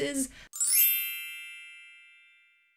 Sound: chimes play

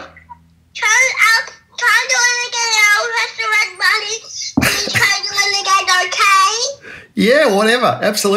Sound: a young child speaking

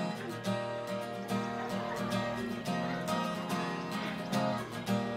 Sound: laughs

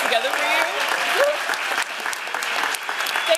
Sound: applause

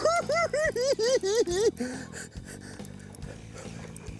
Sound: cackling

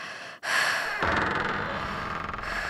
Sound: female breathing heavily, panicking; door creaking

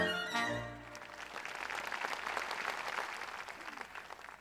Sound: audience applauds

